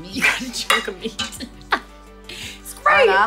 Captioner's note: laughs